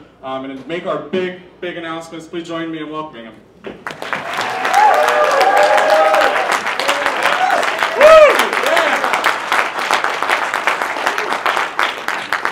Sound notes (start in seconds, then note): 3.8 applause